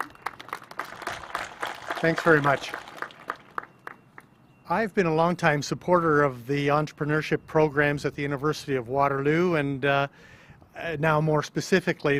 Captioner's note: applause